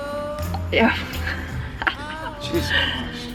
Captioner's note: laughs